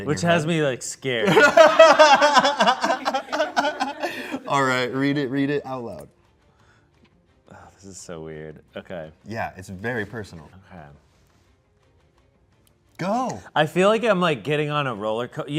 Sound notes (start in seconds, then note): 1.2 everyone laughs